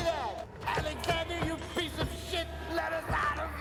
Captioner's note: panicked voice